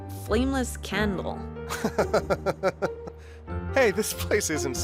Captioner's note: Jonathan laughs